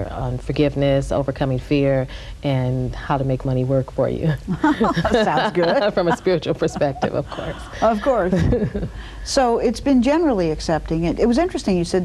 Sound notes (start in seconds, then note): 4.5 laughs